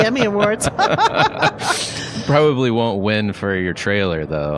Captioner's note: laughs